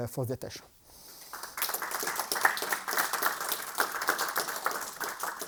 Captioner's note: applause